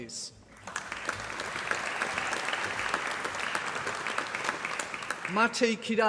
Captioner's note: applause